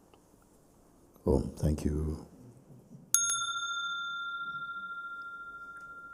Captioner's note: Mooji rings the bell